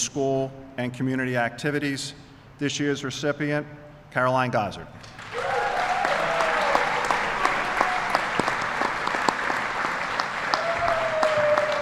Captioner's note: applause